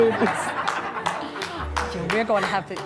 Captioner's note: guests laughing